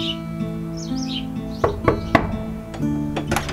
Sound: knocking

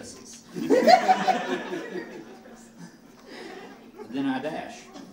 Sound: audience laughing

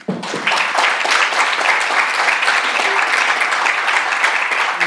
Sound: audience clapping

